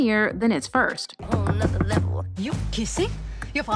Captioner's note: knocking